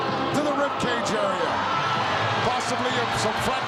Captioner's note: audience cheering